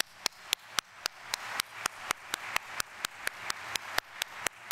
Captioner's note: audience applauding